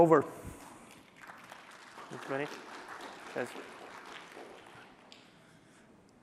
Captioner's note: applause